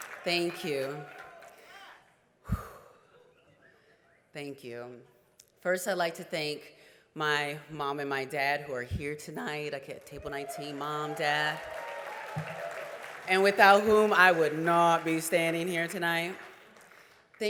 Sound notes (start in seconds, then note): 2.4 exhales deeply